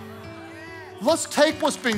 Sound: congregation responding

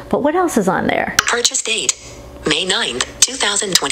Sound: computerized Voice

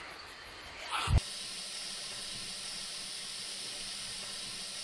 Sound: water spraying

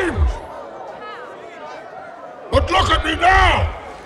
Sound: crowd murmuring

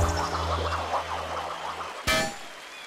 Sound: metal clank

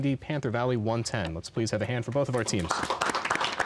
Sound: applause

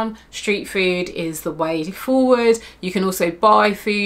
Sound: none

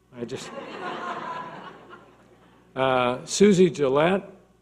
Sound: audience laughing

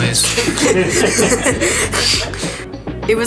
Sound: laughing

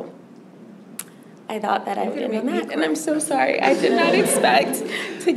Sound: laughter

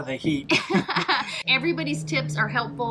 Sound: laughs

